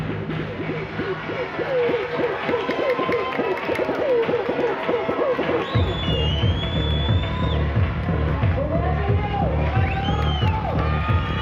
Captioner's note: cheers and Applause